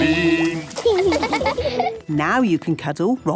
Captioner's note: laughing